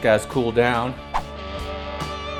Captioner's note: whoosh; rock music